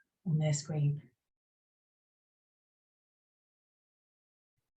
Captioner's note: silence